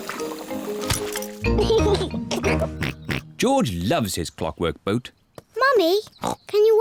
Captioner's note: giggles